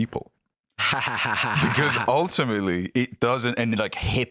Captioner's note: laughs